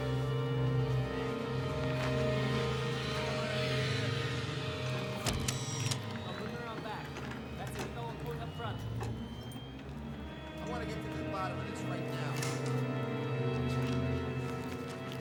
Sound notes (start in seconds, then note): 5.4 camera clicks